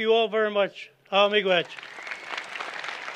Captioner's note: non-english speech; applause